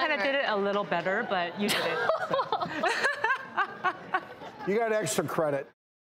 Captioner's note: laughing